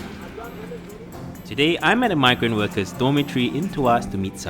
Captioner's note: voiceover